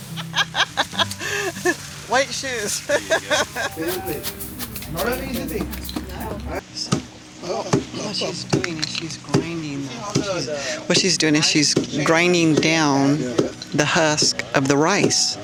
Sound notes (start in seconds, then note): 0.0 laughs; 6.3 thuds